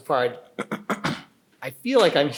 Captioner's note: clears throat